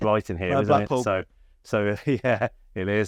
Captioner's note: chuckles